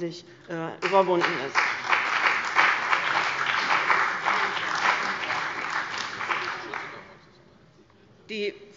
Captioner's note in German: Beifall bei dem BÜNDNIS 90/DIE GRÜNEN und der CDU